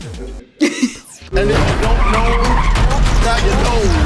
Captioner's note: tires squealing